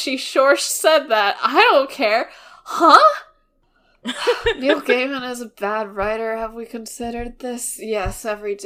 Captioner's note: laughs